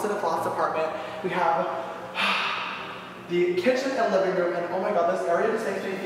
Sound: exhales

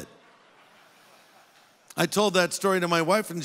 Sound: audience laughing

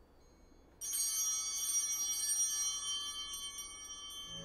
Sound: chimes ringing

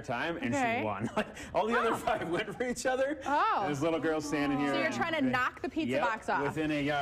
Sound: laughter

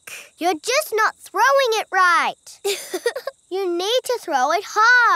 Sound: chuckles

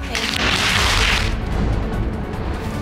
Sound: audience applauding

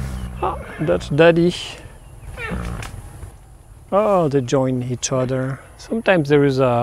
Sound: horse sounds

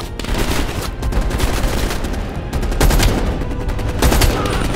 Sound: gunshots

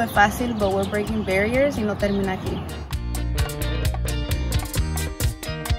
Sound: speaks in foreign language

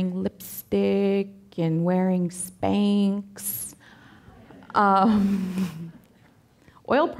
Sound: audience laughing

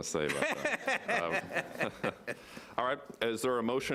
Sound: laughing

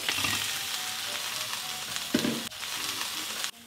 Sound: sizzling sound

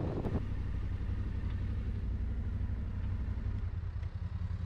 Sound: motorcycle engine idles

